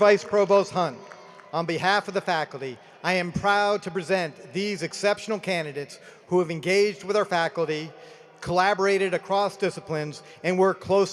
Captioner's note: cheering and applause